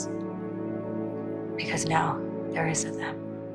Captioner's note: voiceover; voiceover